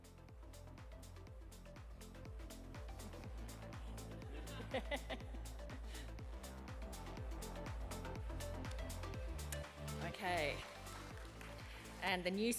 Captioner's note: laughter